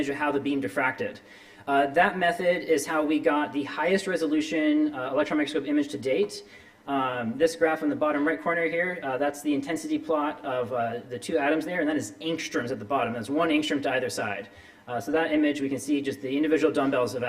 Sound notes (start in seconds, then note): none